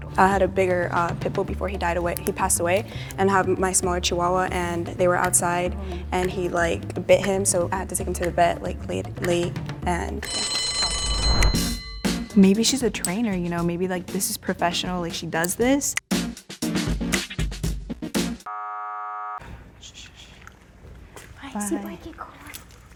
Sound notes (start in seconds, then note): 10.2 bell rings; 18.5 buzzer sound